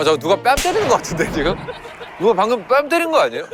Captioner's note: cold slap